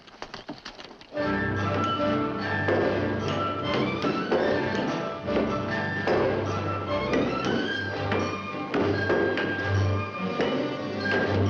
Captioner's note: epic orchestral music; tools and hammers banging